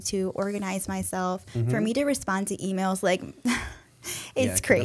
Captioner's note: chuckle